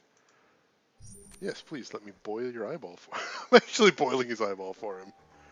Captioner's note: laughs